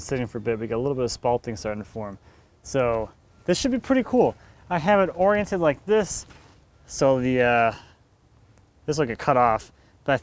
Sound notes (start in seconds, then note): none